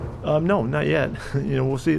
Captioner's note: chuckles